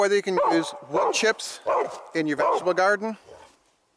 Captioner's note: dog barks